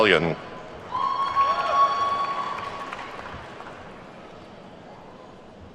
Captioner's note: attendees whooping and clapping